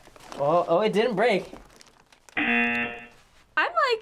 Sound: buzzer

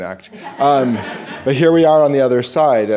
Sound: audience laughing

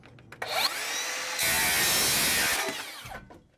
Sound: saw whirs

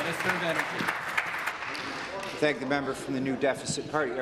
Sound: applause

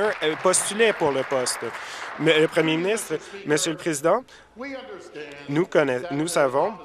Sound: applause

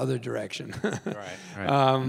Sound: Tim chuckles

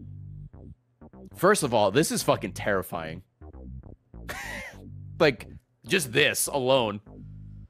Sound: laughs

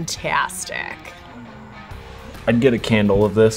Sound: sniffs

